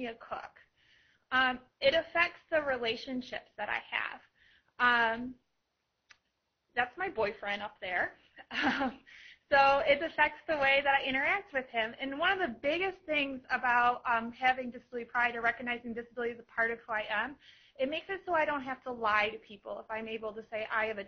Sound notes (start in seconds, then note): 7.0 laughing